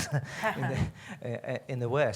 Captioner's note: laughter